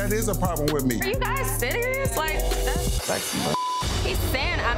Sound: beep

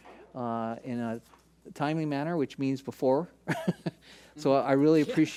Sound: laughs

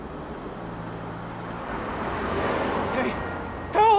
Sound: car revs

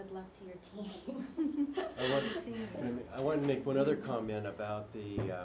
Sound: laugh

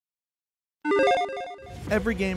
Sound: electronic chiming

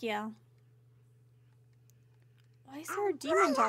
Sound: low Whispering Continues

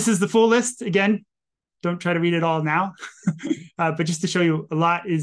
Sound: chuckles

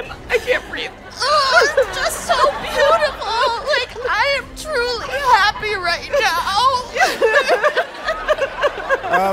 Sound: cries

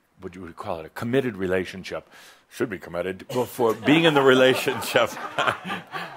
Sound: some chuckles

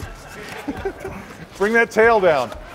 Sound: laughter

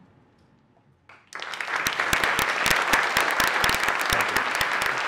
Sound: audience applauding

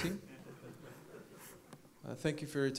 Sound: laughing

